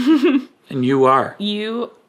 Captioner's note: chuckling